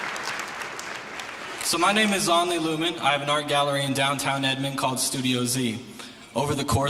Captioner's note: applause